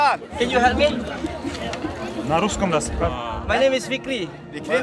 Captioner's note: speaking Turkish; speaking Turkish